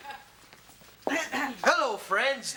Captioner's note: Ms. Atoll clears her throat